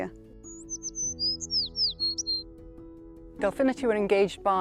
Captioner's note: bird chirping